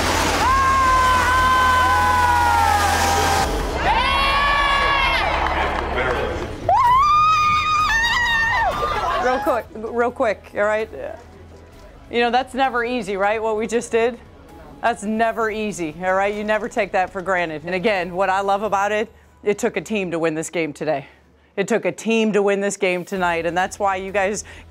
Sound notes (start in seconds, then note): 0.0 cheers and applause; 6.6 screaming